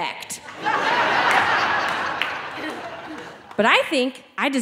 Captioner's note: audience laughing